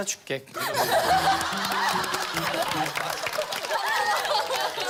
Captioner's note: laughter